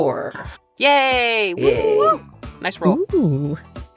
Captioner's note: A FEW PEOPLE cheer